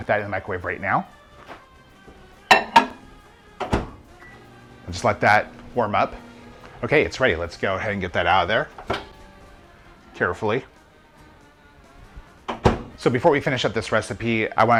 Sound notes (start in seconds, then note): 3.5 microwave beeps